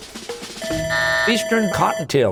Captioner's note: buzzer, bell ringing